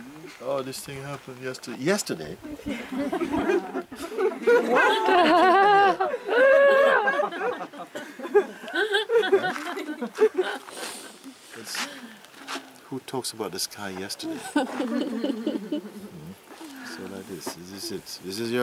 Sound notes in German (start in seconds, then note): 2.4 Freund lacht; 2.5 Lachen; 6.1 Mehr Lachen; 14.2 Lachen